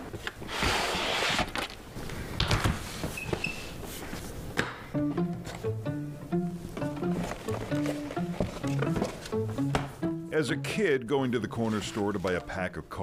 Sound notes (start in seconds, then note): 6.7 bin clicks; 9.0 quirky music